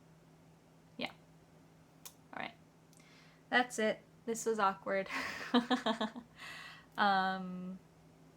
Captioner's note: awkward laugh